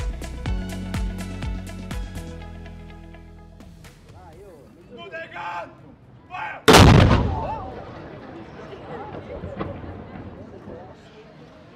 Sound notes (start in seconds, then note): 0.0 upbeat music; 6.6 cannon blasting